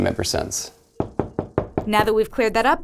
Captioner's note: knocking